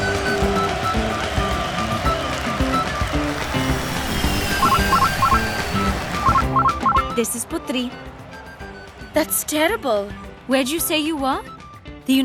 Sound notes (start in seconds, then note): 0.1 cheers and music; 2.4 airship engines; 5.4 ringtone